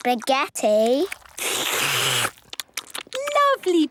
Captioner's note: all slurping